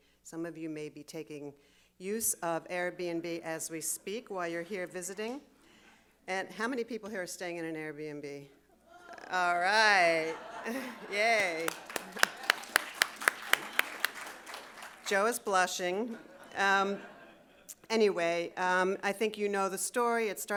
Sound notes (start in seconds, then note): 11.0 audience applauding and cheering